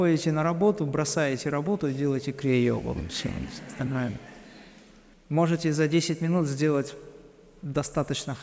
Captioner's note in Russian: смех